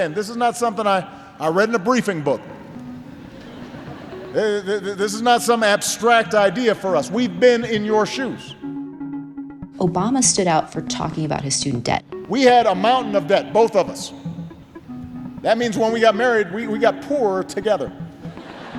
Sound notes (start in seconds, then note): 3.1 laughter; 11.9 soundbite of archived recording; 18.2 laughter